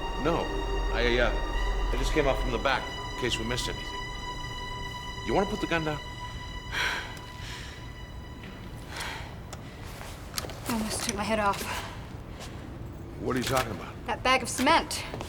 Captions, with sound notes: - No, I just came up from the back in case we missed anything. You wanna put the gun down? (sighs) - It almost took my head off. - What are you talking about? - That bag of cement.